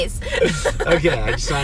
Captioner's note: both laughing